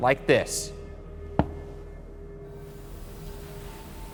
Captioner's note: knock thuds